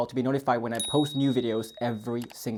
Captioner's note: bell ringing